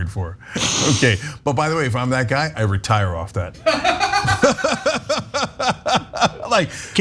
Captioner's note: laugh